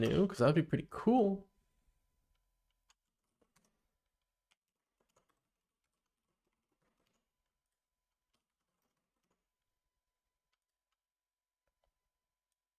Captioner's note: silence